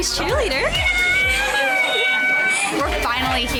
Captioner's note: mom screaming